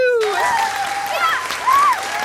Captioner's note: crowd cheering